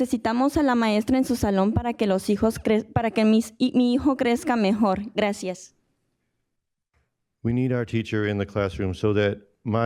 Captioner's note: speaking in spanish